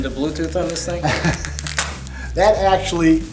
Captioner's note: velcro crackles; laughs